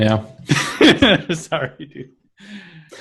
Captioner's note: laughs